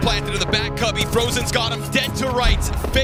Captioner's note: gun firing